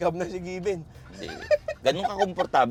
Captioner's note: laughs